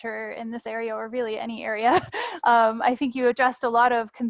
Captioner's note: laughs